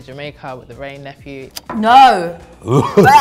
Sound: audio clicks; gagging

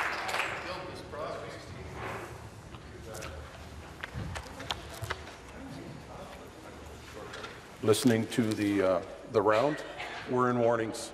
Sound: applause

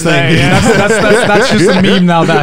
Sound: laughing loudly

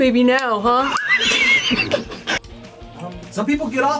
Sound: laughs

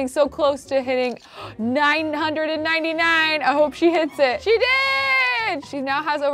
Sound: gasps

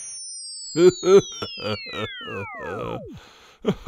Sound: laughing

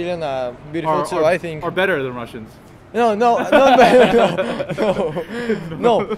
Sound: laughs

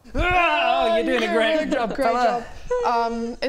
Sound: rwarrgh

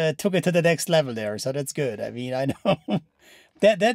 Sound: laughs

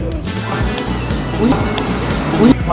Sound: slap!

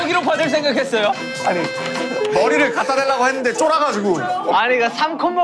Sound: crying

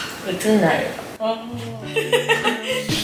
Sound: yawning

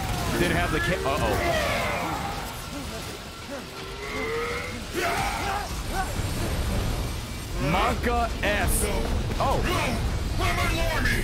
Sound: laughs

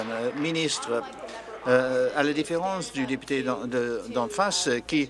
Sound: applause

